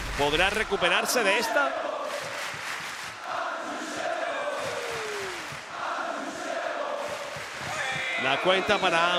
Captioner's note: applause